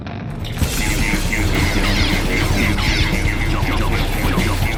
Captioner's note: chef droids saying "pew pew" repeatedly